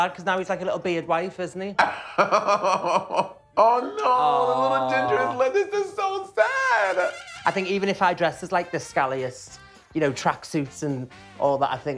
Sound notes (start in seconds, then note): 1.8 laughing